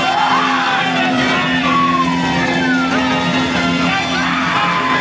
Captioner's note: cheering